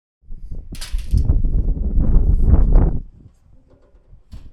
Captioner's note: wind blowing